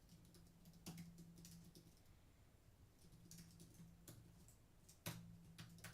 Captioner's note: typing